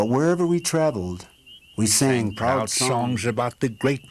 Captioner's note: elder male, Native American, voice